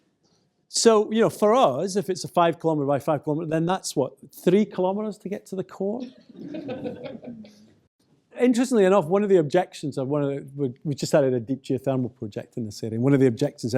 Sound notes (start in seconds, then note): 6.1 laughter